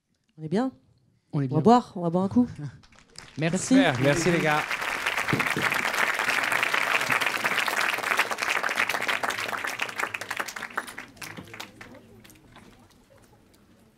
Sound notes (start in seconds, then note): 4.9 applause